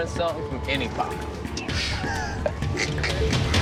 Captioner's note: laughter